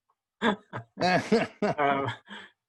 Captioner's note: laughter